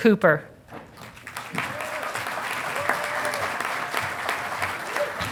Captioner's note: audience applauding